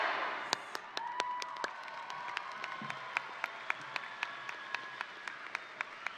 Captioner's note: crowd applauding; crowd cheering